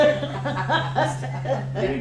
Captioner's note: laughter